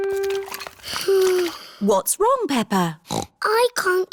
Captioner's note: sighs; snorts